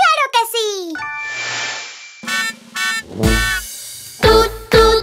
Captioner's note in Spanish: Sonido de bocina